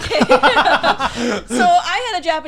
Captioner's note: laughing